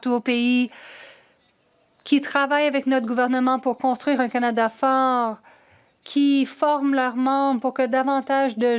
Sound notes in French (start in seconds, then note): 0.8 voix de l'interprète